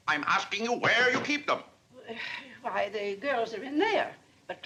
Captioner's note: sighs